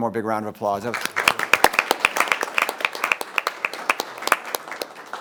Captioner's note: members applauding